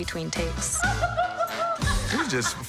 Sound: laughing

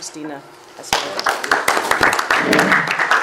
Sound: clapping

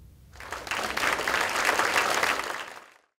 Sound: audience applause

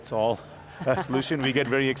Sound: laughing

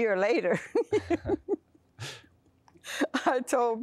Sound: laughter

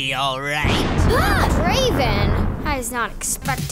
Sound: tires screeching; thunder rumbles

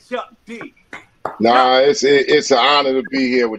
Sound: clapping

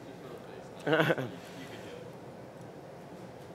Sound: laughter

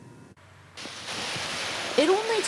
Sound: water splashing

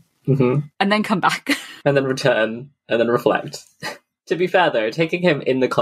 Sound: laughs

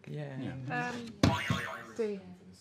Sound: boing

